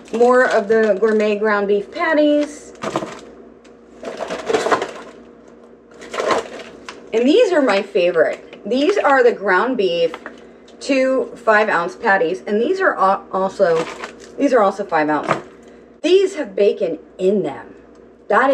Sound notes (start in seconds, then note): 3.9 paper crumpling